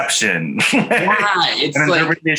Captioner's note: chuckles softly